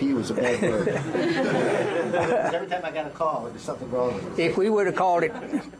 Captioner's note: laughter